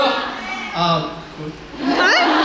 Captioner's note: in English